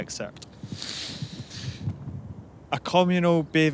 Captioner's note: sniffs from the cold